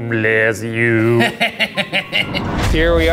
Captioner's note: laughs